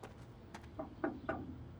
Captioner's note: knocking on gate